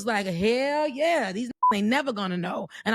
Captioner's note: beep